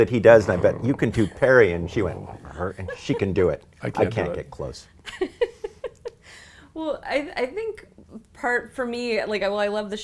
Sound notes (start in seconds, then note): 0.0 purr